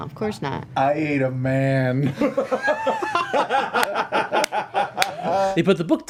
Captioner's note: laughter